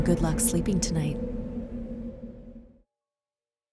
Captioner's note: wind whistling